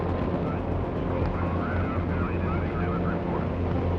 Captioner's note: people talking on radio